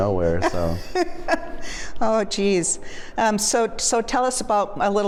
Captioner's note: laughs